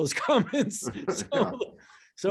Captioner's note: laughter